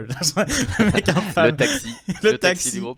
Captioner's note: laughs